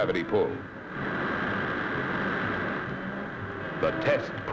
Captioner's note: engine whirring